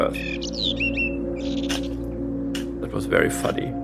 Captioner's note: bird chirping